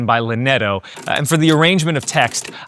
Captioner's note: keyboard clicking